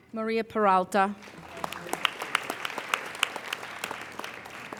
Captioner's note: applauding